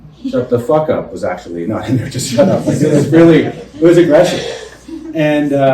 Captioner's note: laughter